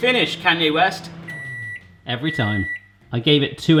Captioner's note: microwave beeping